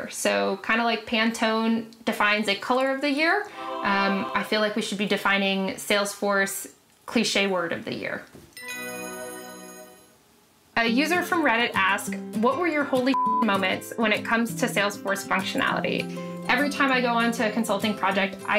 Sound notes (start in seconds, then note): 8.6 bright ringing sound; 13.1 beep